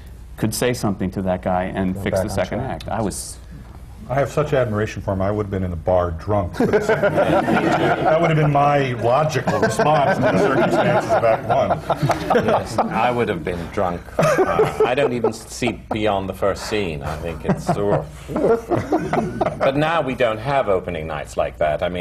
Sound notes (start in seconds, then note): 3.2 terrified; 6.5 laughter; 17.0 laughter